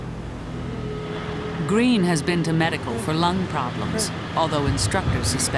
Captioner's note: voiceover